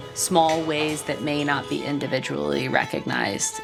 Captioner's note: people chattering continues